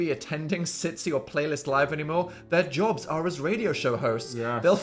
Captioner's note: none